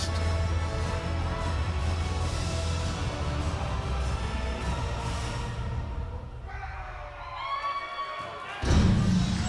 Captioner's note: crowd cheering